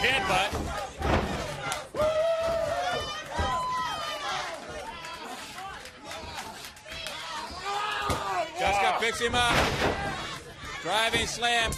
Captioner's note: crowd cheering; crowd chatter